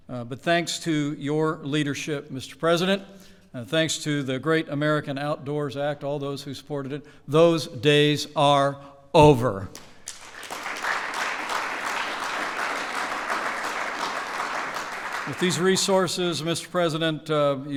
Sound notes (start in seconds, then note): 9.7 applause